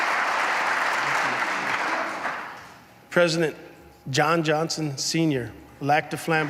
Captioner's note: applause